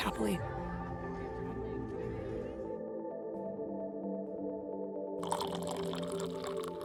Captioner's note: light instrumental music; liquid gurgling